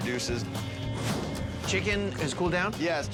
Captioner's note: logo whooshes